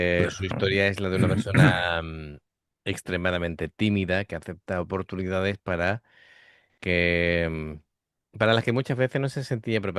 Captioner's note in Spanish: carraspeo